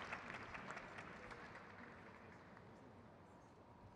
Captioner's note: crowd cheers